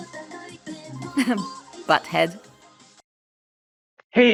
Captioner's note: laughs